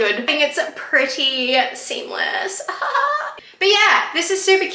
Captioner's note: laughs weirdly